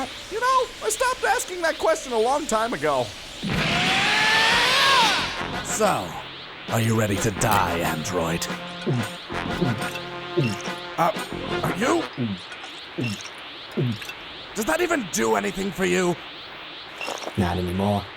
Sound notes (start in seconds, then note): 8.6 glug; 8.6 glug ~ glug ~ glug; 10.4 glug ~ glug; 12.0 glug ~ glug; 12.2 glug; 13.7 glug ~ glug ~ glug